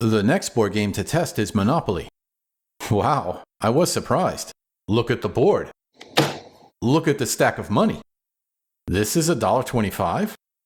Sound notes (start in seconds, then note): 6.1 thud!